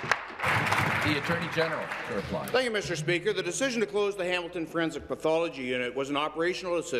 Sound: applause

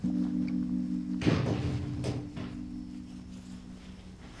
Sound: knock on door

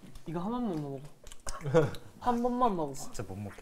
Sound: laughing

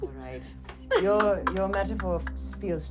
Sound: laughing

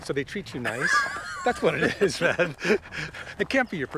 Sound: laughs

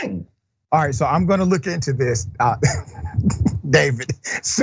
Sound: laugh

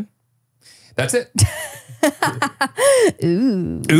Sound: laughs

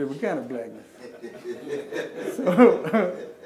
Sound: laughing

